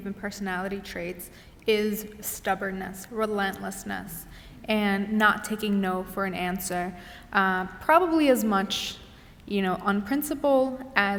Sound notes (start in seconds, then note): none